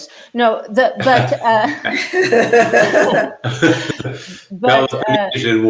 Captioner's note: everyone laughing